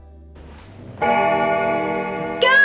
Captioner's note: bell ringing